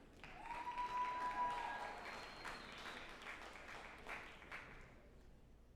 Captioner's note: group applauding and cheering